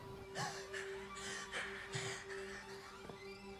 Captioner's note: panting